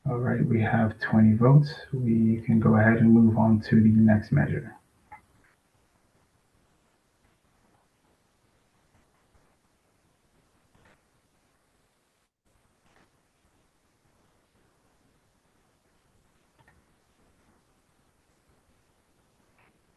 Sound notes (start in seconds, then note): 6.3 pause